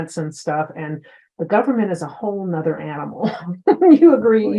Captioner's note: chuckles